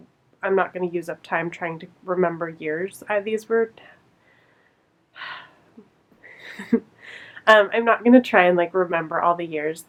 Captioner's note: laughs